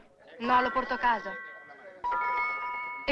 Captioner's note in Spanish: la campana suena